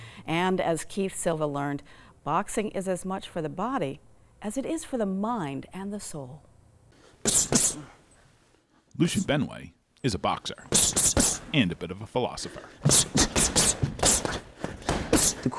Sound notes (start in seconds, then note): 7.0 blows air; 7.2 gloves smacking; 12.4 gloves smacking; 12.7 blows air